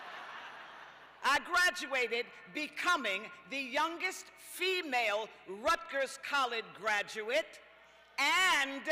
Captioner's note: laughter